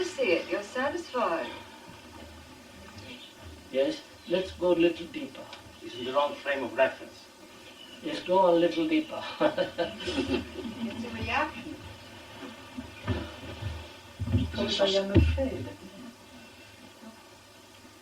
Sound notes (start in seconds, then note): 9.2 laughs